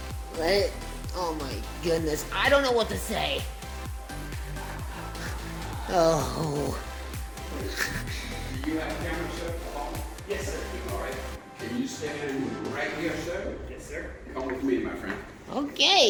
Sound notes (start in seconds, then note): 4.0 laughs